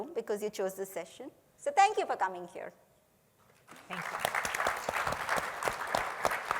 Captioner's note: a pplause